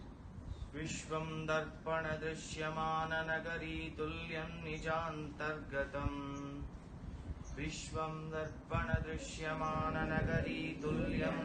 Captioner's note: chant